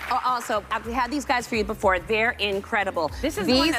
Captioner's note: applause